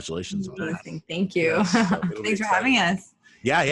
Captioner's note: laughs